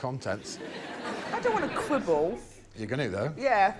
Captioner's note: laughter